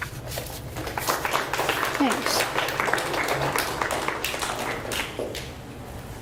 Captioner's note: audience applauds